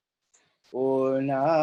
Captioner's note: chanting